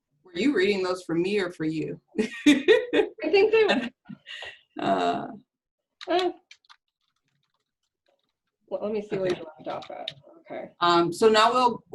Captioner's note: laughter